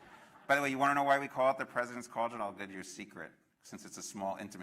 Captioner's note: laughter